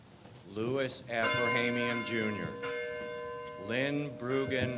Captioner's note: bell tolls